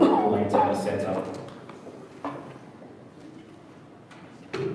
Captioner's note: coughing drowns out speaker